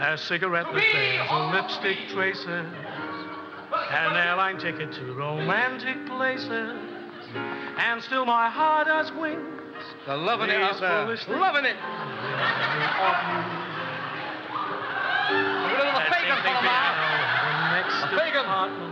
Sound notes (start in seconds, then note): 12.6 audience laughing; 14.8 audience screeching